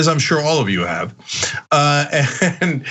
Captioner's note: laugh